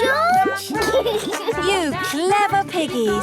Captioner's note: laughs